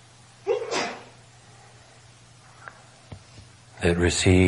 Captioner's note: audience sneezing